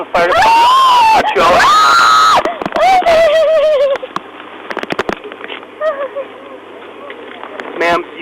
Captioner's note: woman screams and cries